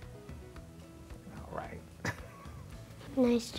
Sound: laughing

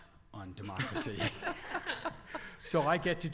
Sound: audience laughter

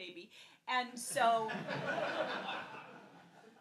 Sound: laughs

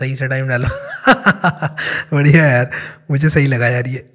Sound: chuckles

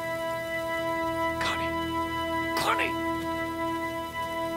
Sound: <i> whispering</i>; <i> whispering</i>

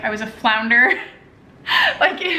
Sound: laughter

